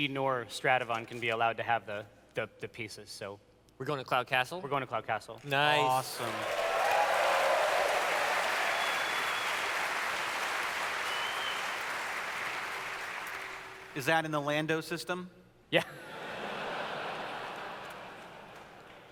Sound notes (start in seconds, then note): 5.8 audience cheers; 15.8 laughter